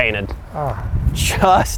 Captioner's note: groans